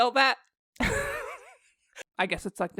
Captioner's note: laughter